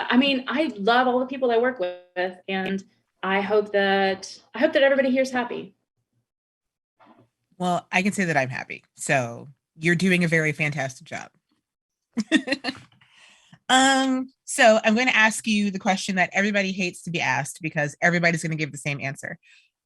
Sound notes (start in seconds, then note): 12.2 laughter